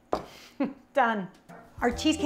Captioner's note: chuckles